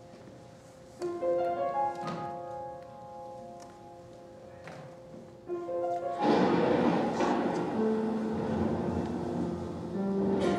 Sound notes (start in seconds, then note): 6.2 thunderclap